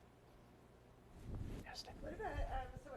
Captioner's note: whispers